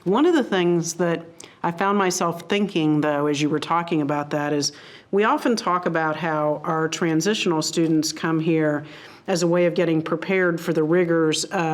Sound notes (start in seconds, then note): none